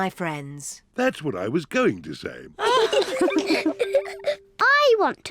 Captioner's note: all giggle